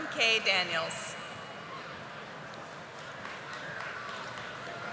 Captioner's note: audience applauding